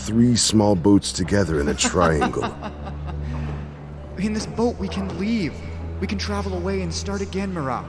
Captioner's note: laugh